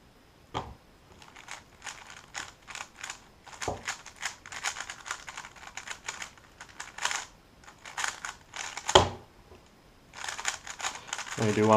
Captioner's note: cube noises